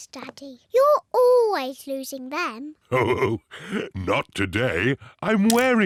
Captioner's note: chuckles